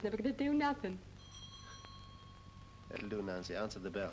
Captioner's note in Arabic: دقات الجرس